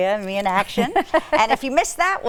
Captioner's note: laughing